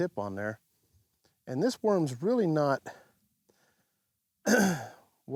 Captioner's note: clears throat